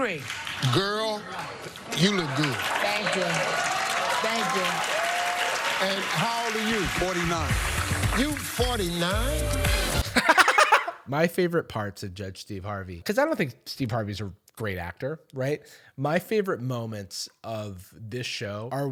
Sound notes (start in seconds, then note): 1.9 clapping and cheering; 10.0 laughs